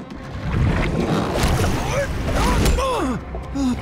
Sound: grunting

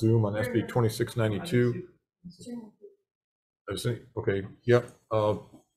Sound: speaking faintly

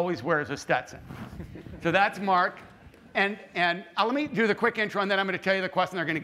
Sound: laughter

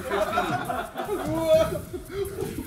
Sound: laugh

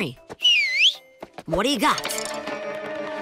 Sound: whistles

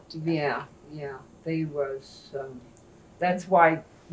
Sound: none

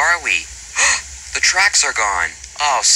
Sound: gasp

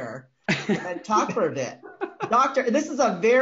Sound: laughs

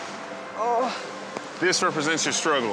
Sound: groans

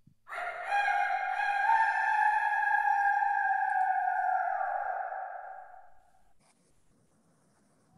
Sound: rooster crow

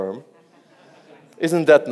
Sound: audience laughs

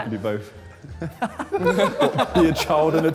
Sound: Sidemen laughing

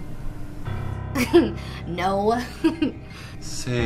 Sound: laughs

